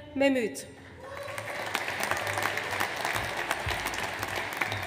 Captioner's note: audience applauds